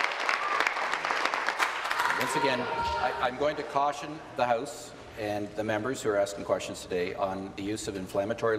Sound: applause

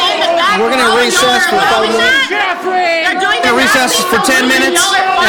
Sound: chanting

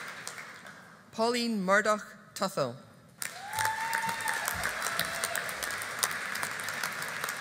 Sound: audience applauding

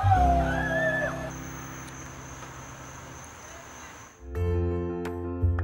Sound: hooting and hollering; crickets chirping

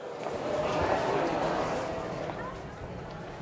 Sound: crowd noises

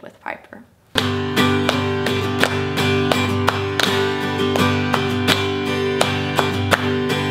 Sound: upbeat guitar music; hands clapping

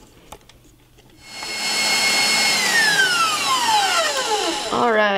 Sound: mixer whirring

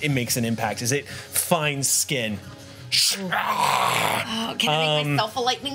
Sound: animal sounds

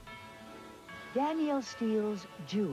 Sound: NBC chimes

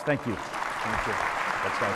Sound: applause

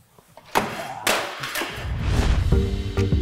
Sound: bang; whoosh / jazz-hip hop music begins

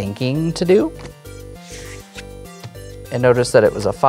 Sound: cards slapping and sliding

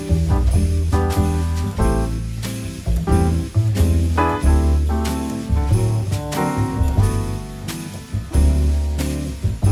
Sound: strange thumping

